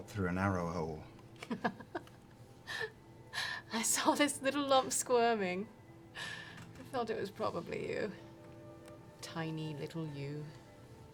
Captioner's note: laughs